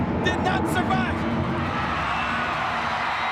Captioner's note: thunder rumbles; crowd cheering